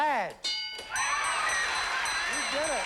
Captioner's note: cheering and applause